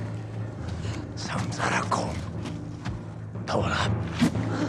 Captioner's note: speaks alien language